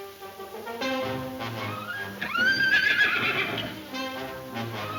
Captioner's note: exciting orchestra music; horse whinnying